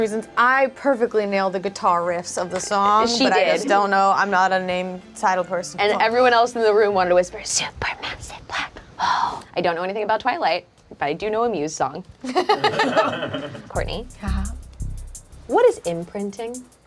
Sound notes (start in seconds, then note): 12.2 group laughs